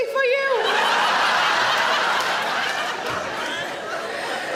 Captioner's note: audience laughing